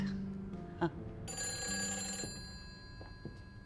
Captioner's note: ringing